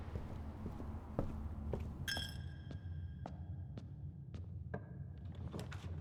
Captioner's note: bell dings